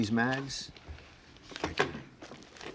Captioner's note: mags clattering